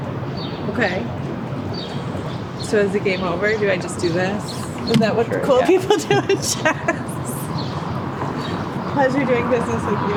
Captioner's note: laughing